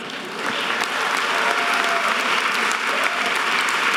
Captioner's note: audience applause